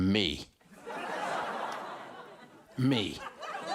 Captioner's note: audience laughs